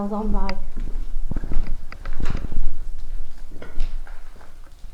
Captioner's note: walking